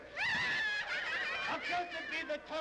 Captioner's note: women laughing